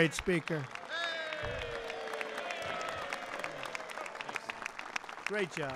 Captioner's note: applause